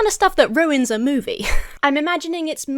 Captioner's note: chuckles